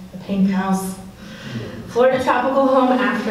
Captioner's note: audience laughs